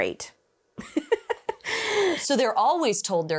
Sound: laughs

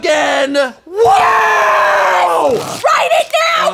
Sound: 𝘴𝘤𝘳𝘦𝘢𝘮𝘪𝘯𝘨 𝘰𝘧 𝘦𝘹𝘤𝘪𝘵𝘦𝘮𝘦𝘯𝘵

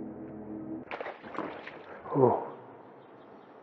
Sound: splash

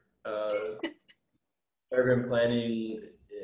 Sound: laughs

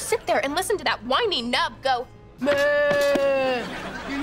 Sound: groaning

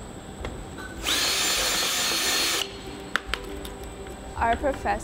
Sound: drilling

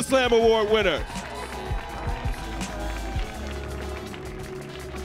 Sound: audience cheering

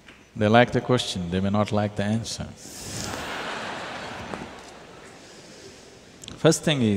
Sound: laughter

